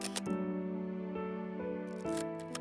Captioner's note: camera clicking